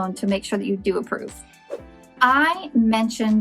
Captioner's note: whooshes